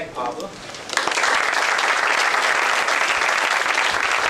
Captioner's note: applause